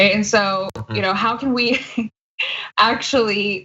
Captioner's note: laugh